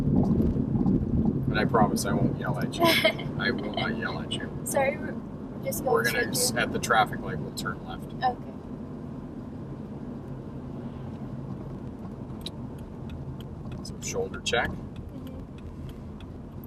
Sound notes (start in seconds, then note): 2.8 laughs; 11.4 blinker flashing